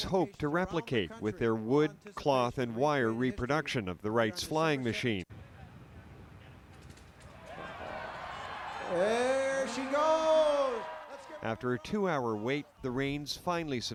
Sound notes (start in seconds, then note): 8.9 crowd cheers